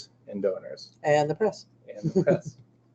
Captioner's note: laughing